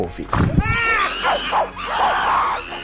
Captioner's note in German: Schreie, Kreischen